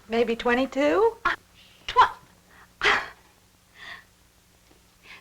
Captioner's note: stammering